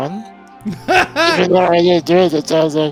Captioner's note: laughs